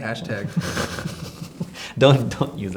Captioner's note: laughing